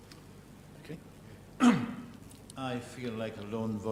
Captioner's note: cough